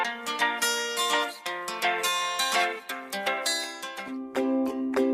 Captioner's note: applause and music